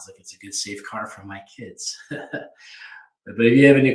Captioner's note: chuckles